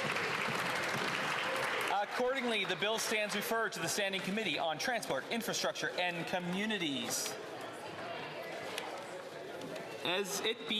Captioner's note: applause